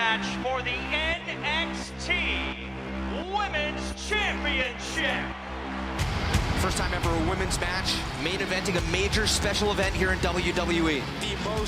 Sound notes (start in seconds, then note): 6.6 cheers & applause